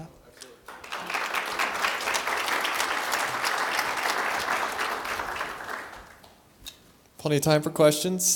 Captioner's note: applause